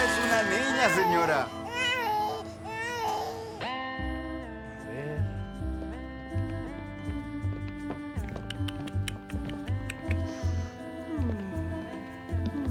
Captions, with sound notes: It's a girl, señora! [baby crying] [heart monitor beeping] [cooing and sighing]